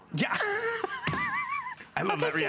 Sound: laughter

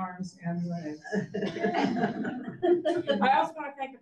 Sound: audience laughs

